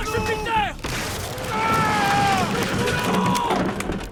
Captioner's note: wood smashing